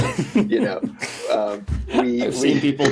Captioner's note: laughs